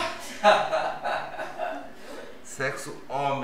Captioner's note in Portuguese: risos